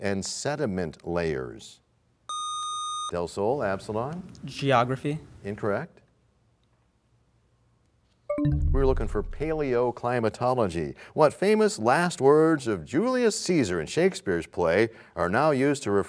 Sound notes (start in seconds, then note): 8.3 bell chimes, time expires